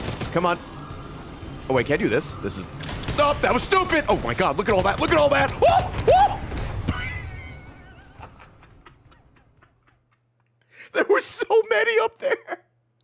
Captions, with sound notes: Come on. Oh wait, can I do this? This is-- Nope, that was stupid. Oh my God, look at all that, look at all that. (screams) (laughs) There was so many up there.